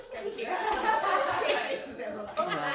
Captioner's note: laughter